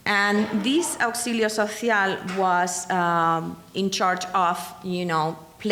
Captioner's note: speaking in foreign language